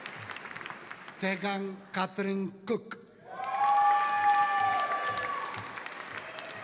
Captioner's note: audience cheering